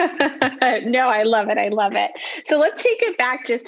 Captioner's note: laughing; laughs